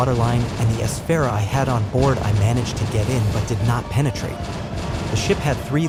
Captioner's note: fire